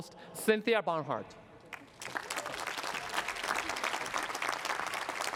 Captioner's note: cheering and applause